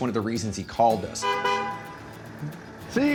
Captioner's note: car horn honks